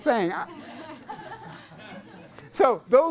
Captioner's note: class laughs